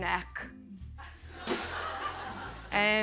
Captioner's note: laughter